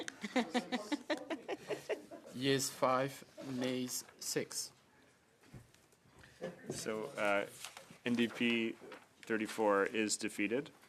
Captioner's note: laughter